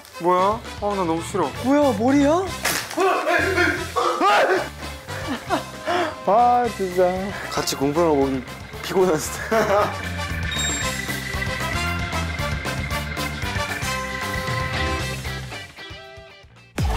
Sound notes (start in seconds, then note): 4.0 scream; 5.1 laughter